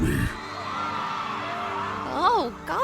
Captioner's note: townsfolk screaming